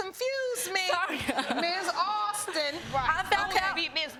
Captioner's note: laughing